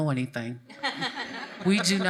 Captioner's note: laughs